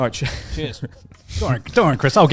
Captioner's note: chuckling; laughs